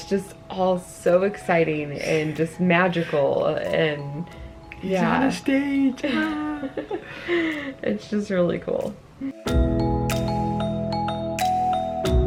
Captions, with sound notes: It's just all so exciting, and just magical and, yeah. - He's on the stage, ah. - (chuckles) It's just really cool. (upbeat music)